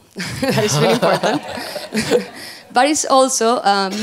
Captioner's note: laughs